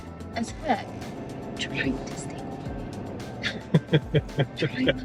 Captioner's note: whispering; laughing